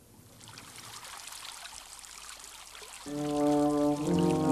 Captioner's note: water trickles; gentle orchestral music